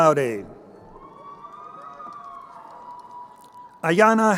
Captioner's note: crowd cheering